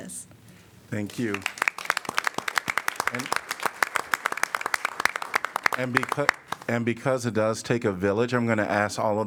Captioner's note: applause